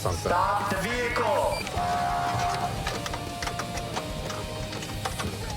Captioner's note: horn blaring